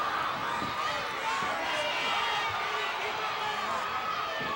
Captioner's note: audience clamoring